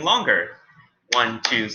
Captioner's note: claps